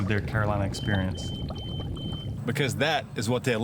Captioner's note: alarm beeps